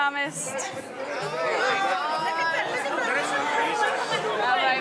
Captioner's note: chattering